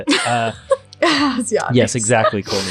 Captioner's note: laughing